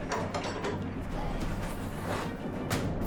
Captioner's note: metal clanking